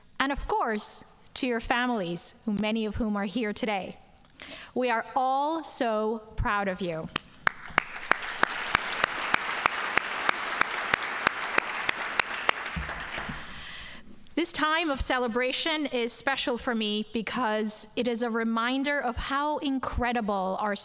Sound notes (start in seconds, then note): 7.4 audience applauding